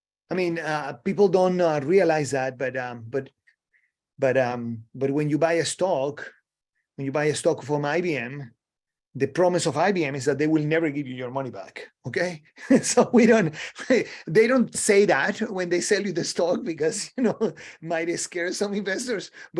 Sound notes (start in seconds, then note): 12.5 laughs